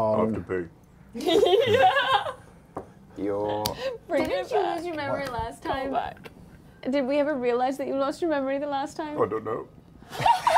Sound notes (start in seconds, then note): 1.2 laughs